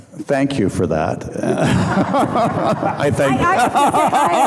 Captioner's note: audience laughing; laughing